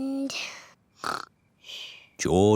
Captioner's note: snores